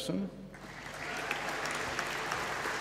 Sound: applause

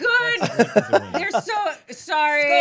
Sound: laughing

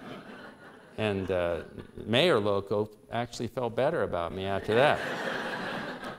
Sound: laughter

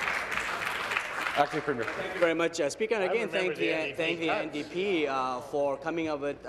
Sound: applause

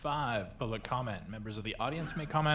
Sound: laughter

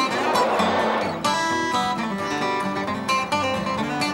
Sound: whistle blowing

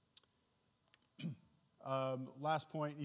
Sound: clears throat

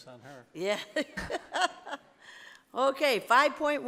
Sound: laughs

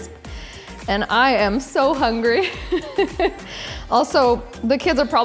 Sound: laughs

